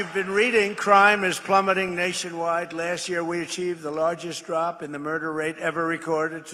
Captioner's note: applause